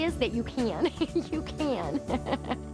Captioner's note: laughs